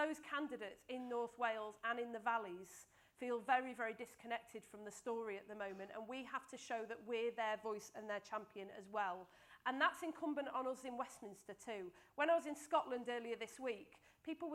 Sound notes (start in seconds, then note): none